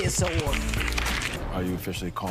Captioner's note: clapping